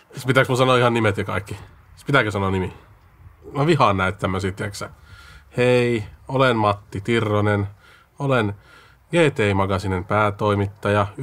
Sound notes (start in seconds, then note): 5.5 mocking tone